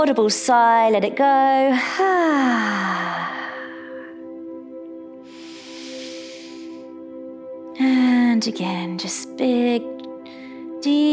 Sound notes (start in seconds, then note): 1.8 sighs; 4.7 calm music; 5.2 inhales